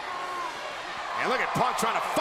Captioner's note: crowd cheers